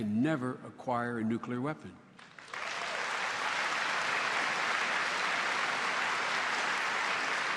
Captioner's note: applause